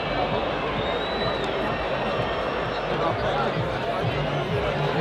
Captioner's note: crowd whistling